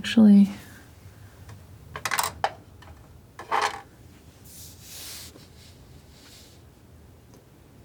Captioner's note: scratching